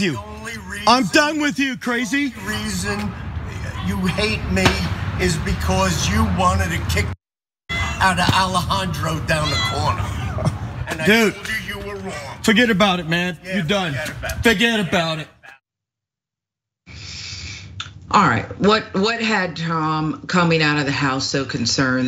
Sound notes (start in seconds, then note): 13.4 laugh